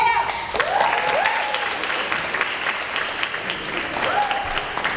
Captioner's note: applause